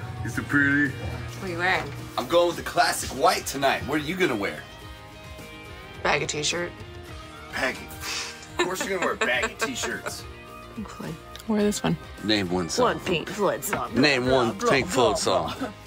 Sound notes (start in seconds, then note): 8.2 puffs air; 8.4 laughs